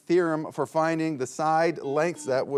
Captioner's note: buzzer beeping